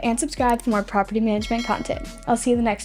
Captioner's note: bell ringing